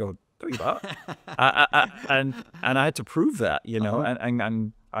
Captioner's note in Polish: śmiech